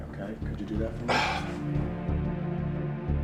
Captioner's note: scoffs